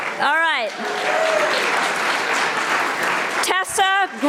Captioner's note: audience applauding